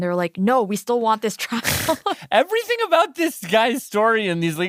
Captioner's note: laughs